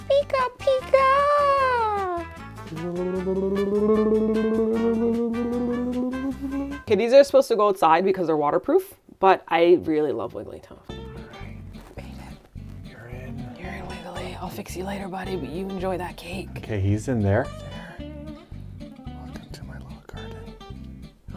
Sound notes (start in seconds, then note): 2.8 UFO sounds; 11.2 whispering; 19.6 whispering